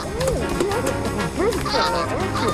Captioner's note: goose honking